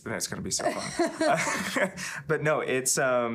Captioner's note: laughing